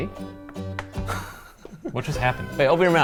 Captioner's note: laughs